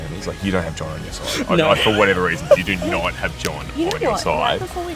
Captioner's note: laughing